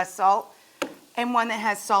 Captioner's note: spices bang